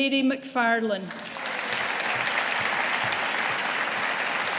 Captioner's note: audience applauding